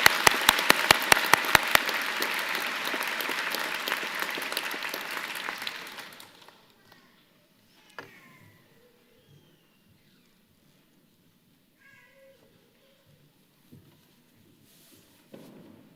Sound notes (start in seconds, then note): 3.1 applause